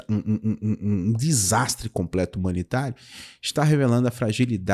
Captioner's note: questioning